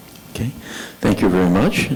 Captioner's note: voiceover